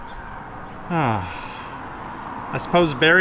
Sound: sigh

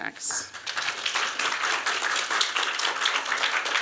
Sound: applause

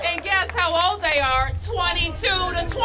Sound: applause

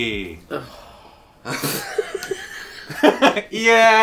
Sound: groans; laughs

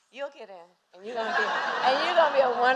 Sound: laughter

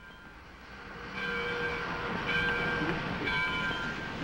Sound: railroad bell ringing

